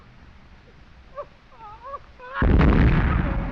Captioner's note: sobbing